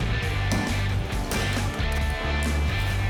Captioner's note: pounding